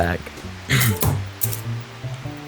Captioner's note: clears throat, chuckles; aluminum "play button" thuds